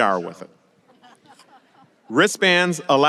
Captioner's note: laughing